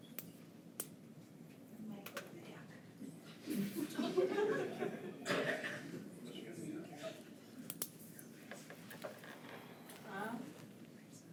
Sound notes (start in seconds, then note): 3.4 attendees chuckle